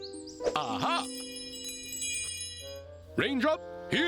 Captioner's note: chimes jingling